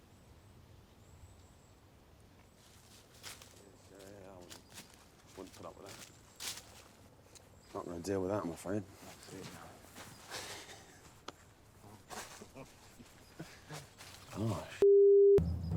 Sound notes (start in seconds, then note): 2.5 grass crunching; 10.2 warriors chuckle